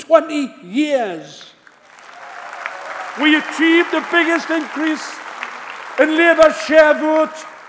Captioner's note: applause